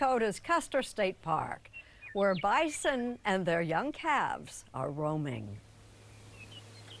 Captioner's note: birds chirping